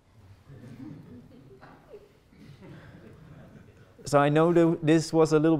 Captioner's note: audience laughing